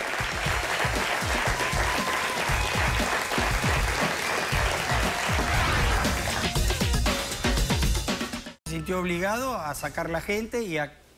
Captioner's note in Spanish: aplausos